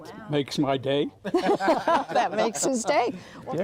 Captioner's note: laughing